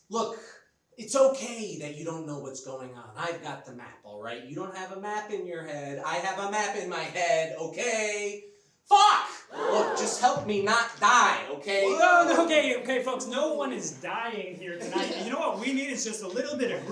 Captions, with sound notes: Look, it's okay that you don't know what's going on. I've got the map, Alright. You don't have a map in your head. I have a map in my head, okay? Fuck! (audience gasps) Just help me not die, okay? - Okay, folks, no one is dying here tonight. You know what we need, it's just a little bit